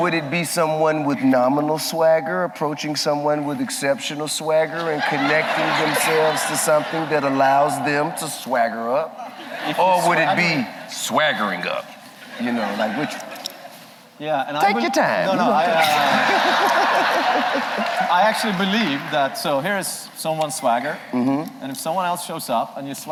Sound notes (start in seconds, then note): 15.8 laughter